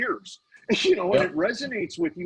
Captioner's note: laughing